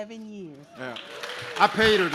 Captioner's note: audience claps